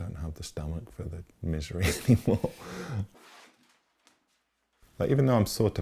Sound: laughs

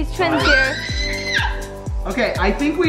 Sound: screams

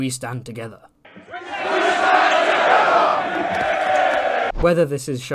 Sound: cheering intensifies

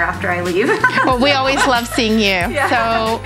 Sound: laughs

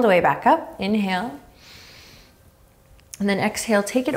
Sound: inhaling deeply

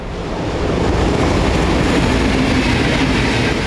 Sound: train

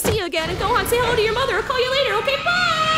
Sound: engine starting; whirring

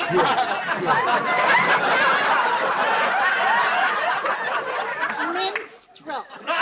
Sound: laughter

